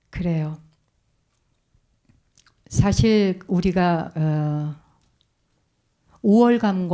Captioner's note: speaking in Korean